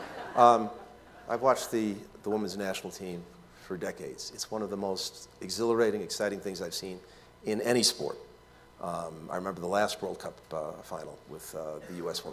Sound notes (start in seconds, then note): 0.0 laughter